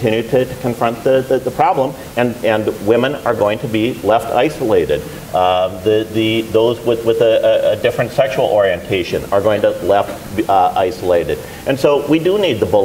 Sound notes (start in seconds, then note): none